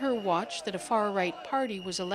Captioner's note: speaking Foreign Language